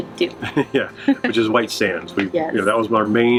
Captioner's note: laughs